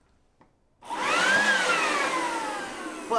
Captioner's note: leaf blower